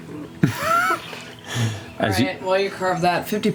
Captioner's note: laughter